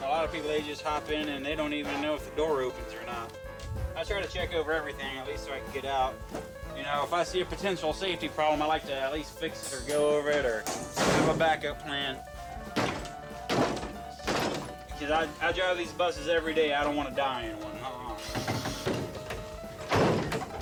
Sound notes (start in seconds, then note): 12.7 vehicle thumping; 18.5 vehicle thumping; 20.4 lively music